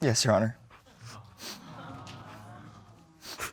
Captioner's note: sniffling